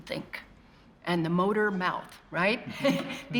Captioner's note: chuckles